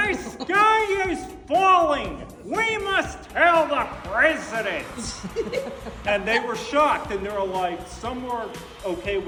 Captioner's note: laughs